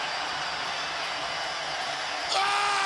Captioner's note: crowd cheering